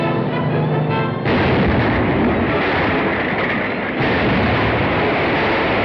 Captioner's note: explosion